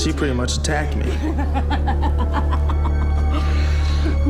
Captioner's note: laughing